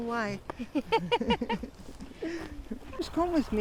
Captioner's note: laughs